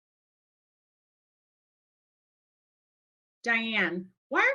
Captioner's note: silence